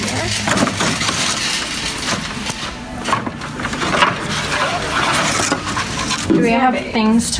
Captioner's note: wood rustles and piece hit against themselves